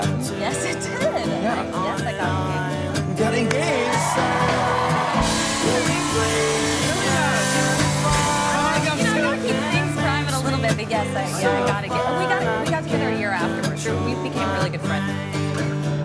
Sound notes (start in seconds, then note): 0.1 laughs; 5.0 the crowd cheers